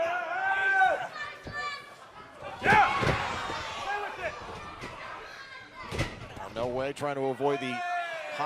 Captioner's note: crowd chatter